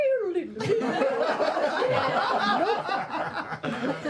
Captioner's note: laughter